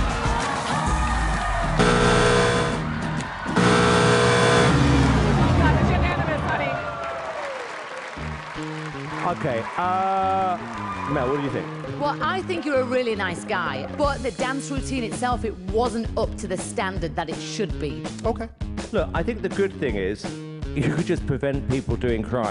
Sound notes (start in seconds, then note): 1.8 buzzer; 7.0 cheers and applause